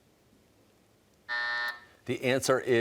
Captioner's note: buzzer sounds